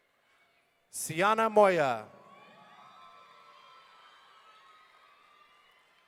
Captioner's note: audience cheering